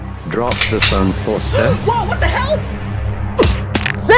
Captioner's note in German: Keuch